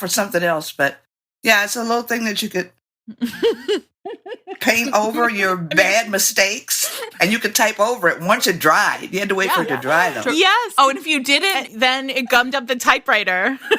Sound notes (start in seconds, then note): 3.1 laughter